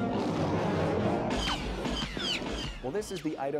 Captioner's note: Chewbacca roars; laser shots